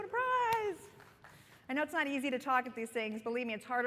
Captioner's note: applause